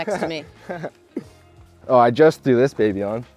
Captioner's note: laughs